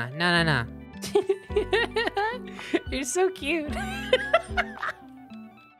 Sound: giggling; laughing

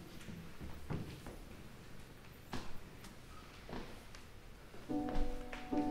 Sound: characters shuffling; light instrumental music

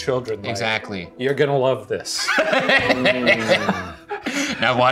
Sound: laughs

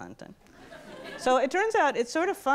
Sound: audience laughs

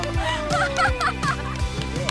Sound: clap

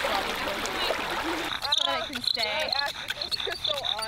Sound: gurgling river; squeak of wood on wood

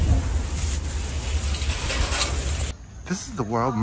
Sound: chain rattling

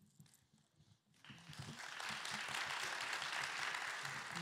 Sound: applause

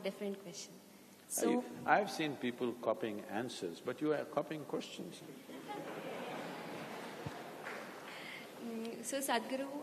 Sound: laughter

